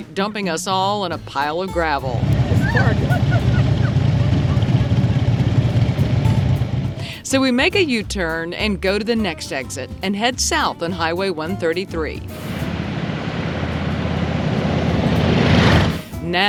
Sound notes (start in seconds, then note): 2.0 motorcycle engines revving; 2.4 laughing; 12.4 motorcycle engines revving